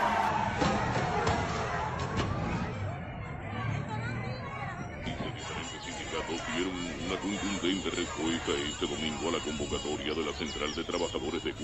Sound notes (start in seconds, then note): 5.2 radio